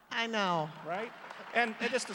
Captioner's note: applause